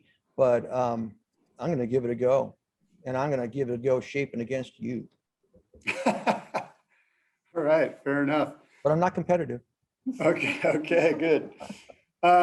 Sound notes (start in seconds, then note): 5.8 laughter; 10.2 laughter